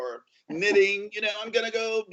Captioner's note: laughs